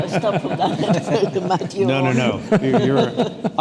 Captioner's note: laughs